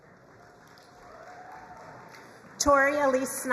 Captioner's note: crowd cheering and applauding